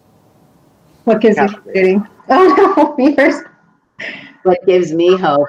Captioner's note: laughs